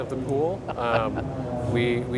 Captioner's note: laughs